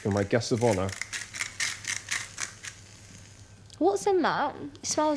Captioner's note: pepper shaker rattling